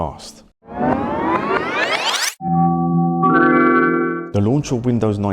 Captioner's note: sound of video tape being rewound